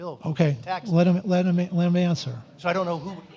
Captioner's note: overlapping chatter